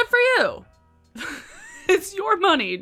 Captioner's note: laughs